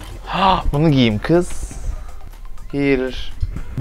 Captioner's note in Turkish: iç çeker